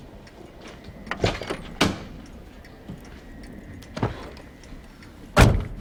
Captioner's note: door opens and closes